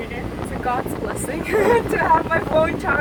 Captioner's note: laughs